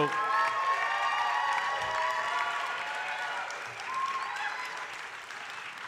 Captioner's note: audience cheering and applauding